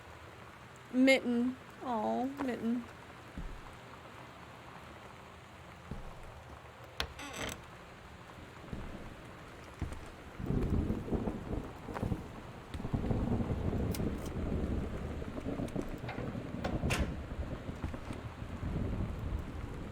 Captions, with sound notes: "Mitten." Aww, Mitten. [Thunder]